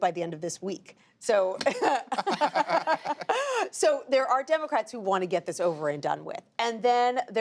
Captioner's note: laughter